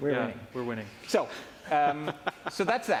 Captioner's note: laughing